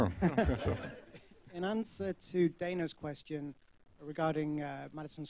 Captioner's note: laughter